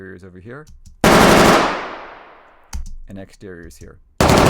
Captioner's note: gun fires multiple times